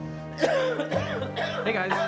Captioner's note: coughs